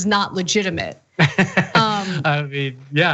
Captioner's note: laugh